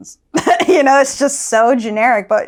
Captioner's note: laughs